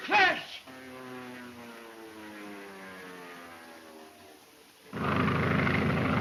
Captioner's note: airplane engine roaring